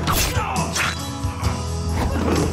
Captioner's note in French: groans; grunts